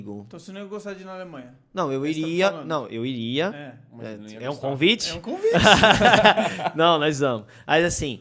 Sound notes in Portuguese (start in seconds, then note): 5.4 risos